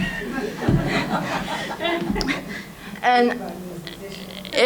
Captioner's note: audience laughing